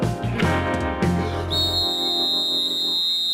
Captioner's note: whistle blowing